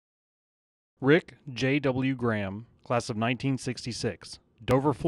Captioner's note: voiceover